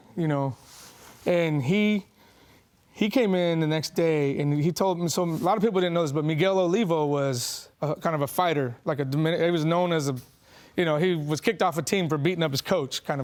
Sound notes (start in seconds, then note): none